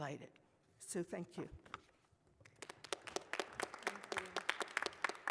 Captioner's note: applause